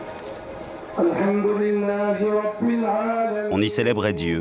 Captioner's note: prayers